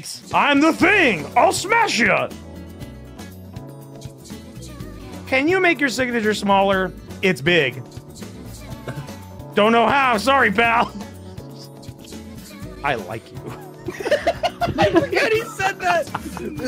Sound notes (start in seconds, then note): 13.4 laughter